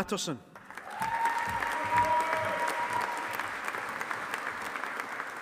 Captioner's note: audience applauding